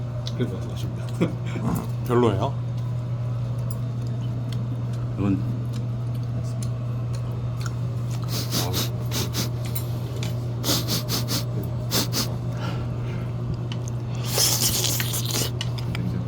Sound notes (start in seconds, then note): 8.3 sniff; 10.6 sniff